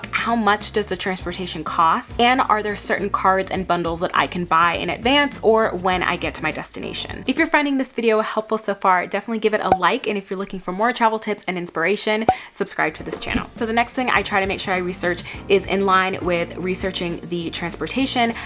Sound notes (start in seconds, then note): 9.7 bubble pops; 12.3 bubble pops